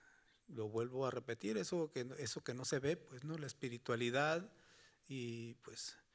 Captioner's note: speaking Spanish continues